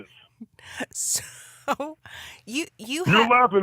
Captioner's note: laughs